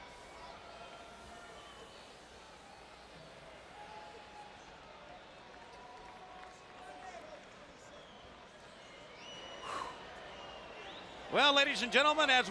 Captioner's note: crowd chatter; crowd cheering